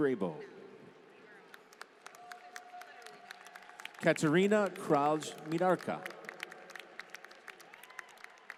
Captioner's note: applause